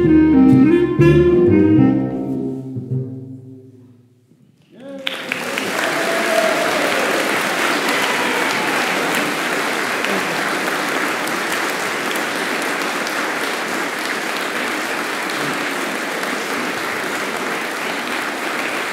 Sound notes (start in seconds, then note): 4.7 applause